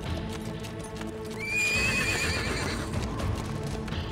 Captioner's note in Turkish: At kişniyor